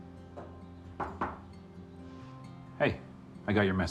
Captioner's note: knocking